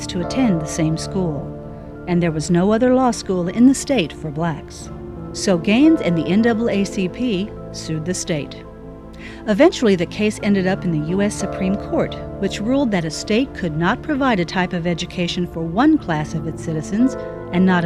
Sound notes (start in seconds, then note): none